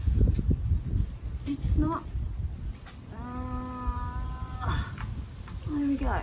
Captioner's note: long groan